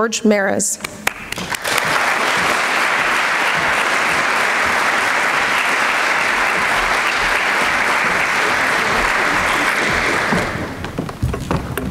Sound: applause

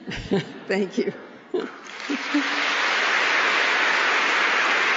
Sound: applause

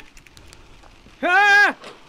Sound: screams

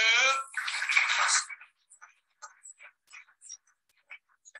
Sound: audience clapping

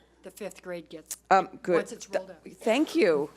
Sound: speaking faintly

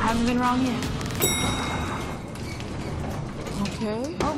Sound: ding

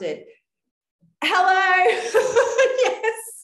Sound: laughing

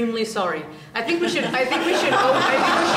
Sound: laughter

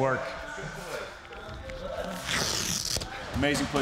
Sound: people chattering

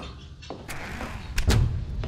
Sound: door closes

